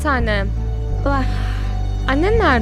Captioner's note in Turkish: nefes alır